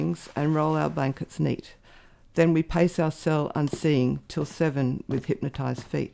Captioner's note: footsteps